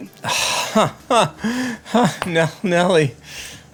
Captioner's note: laughing